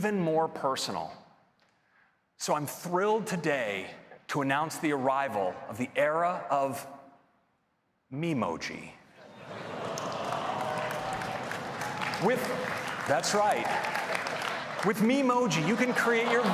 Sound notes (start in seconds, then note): 9.5 applause